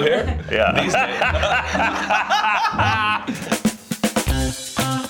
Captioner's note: laughs; upbeat music